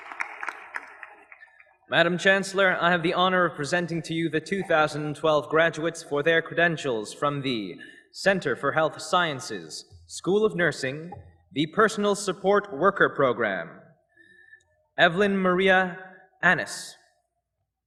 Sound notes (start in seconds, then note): 0.0 applause